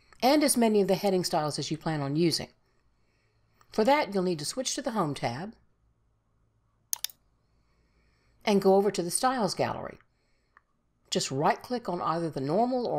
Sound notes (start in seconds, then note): 6.9 mouse clicks